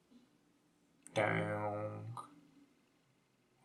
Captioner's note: sound effect